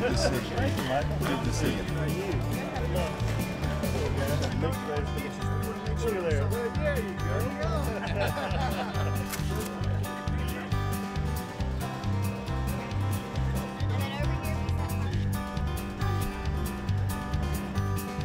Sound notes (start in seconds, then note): 0.0 uptempo music; 7.8 laughter